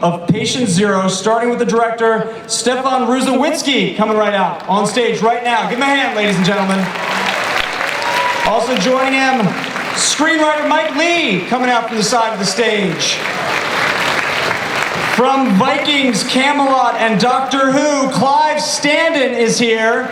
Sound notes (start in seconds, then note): 6.7 applause; 13.0 applause